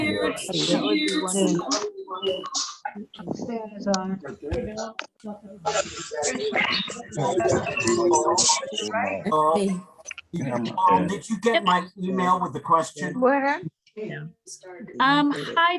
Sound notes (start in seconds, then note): 5.6 microphone distortion